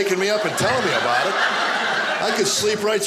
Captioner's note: audience laughing